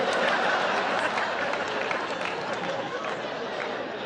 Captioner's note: audience laughs